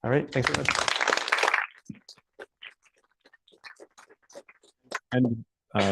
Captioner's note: applause